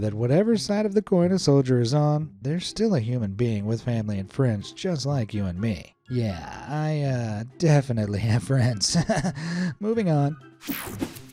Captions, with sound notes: that whatever side of the coin a soldier is on, they're still a human being with family and friends just like you and me. Yeah, I definitely have friends. (chuckles) Moving on.